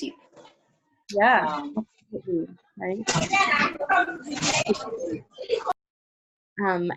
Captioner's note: background chatter